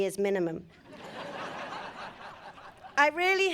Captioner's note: audience laughing